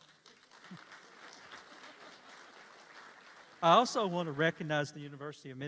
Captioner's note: applause